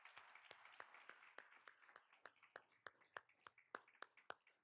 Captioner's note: all applauding